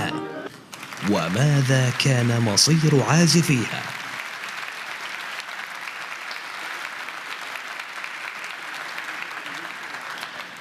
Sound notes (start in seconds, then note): 4.3 audience clapping